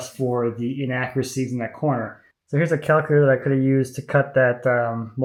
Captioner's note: none